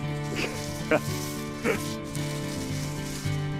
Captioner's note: chuckles